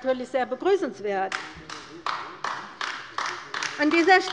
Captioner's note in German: Beifall bei der LINKEN